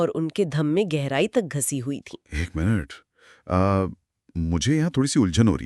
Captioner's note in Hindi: गला साफ़ करने की आवाज़